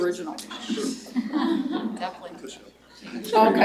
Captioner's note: laughter